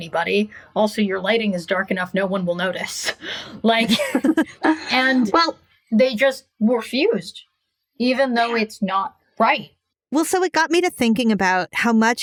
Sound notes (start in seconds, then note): 3.8 laughing